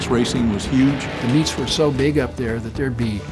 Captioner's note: pat